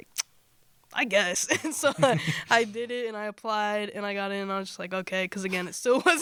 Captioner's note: laughter